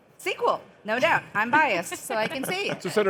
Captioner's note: laughing